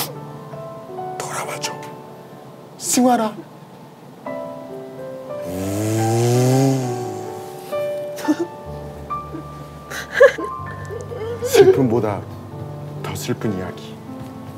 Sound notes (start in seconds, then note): 5.4 sonund of motorcycle